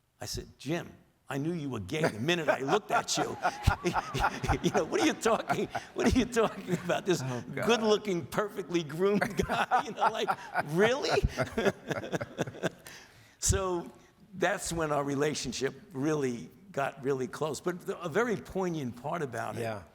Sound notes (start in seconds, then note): 2.0 laughs; 11.8 Drs Fauci and King laugh